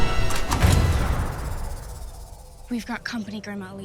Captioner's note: shuts